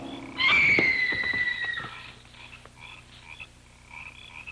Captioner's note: screaming